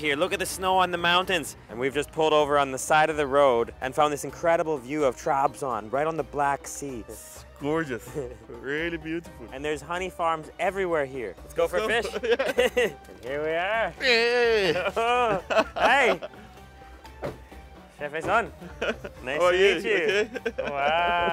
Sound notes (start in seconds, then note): 11.9 laughs; 14.0 laughing; 15.8 speaks in foreign language